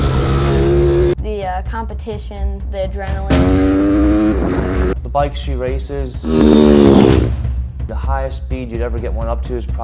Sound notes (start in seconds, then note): 3.3 engine revving